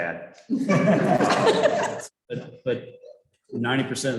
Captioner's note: chuckling